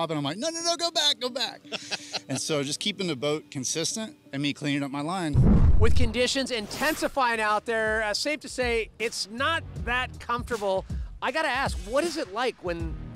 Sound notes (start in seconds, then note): 1.6 laughter; 5.3 whoosh